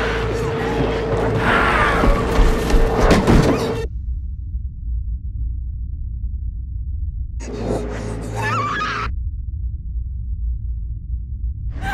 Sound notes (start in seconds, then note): 1.4 Maggie snarls; 8.4 Sandra screams